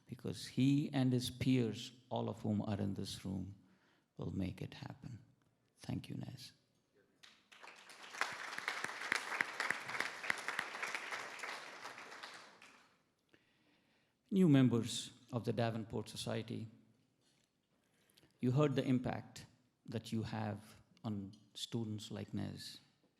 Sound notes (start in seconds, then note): 7.2 everybody applauds